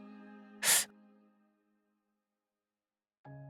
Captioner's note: hisses